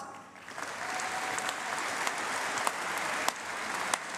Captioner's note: applause